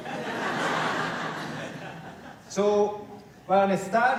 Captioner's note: laughter